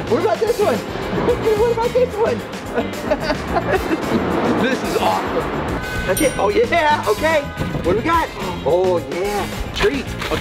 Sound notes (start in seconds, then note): 2.7 laughs